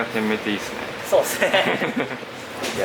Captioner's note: laughs